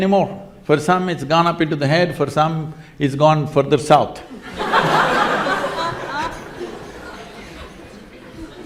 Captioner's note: laughter